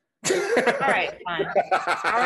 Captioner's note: laughing